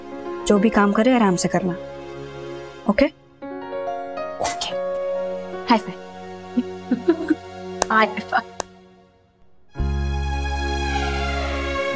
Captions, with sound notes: Please be patient while doing everything. Okay? Okay! High five! [chuckling] High five! [ethereal music]